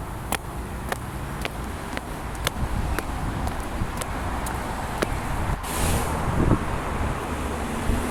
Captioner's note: footsteps